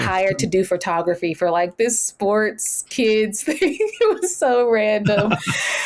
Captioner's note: laughing